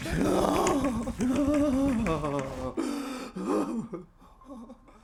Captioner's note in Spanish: sollozando